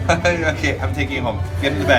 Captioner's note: laugh